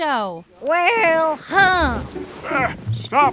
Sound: soundbite of rustling

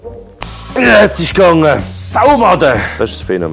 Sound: curses

